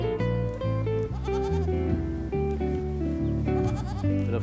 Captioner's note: bleating